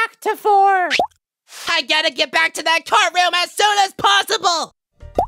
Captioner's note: X pops away